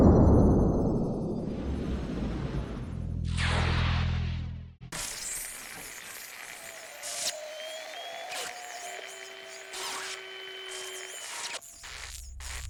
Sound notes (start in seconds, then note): 7.6 crowd; 8.2 hair dryer